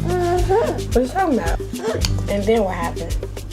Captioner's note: baby babbling